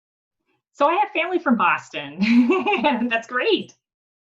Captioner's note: laughs